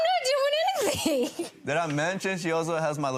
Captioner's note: laughing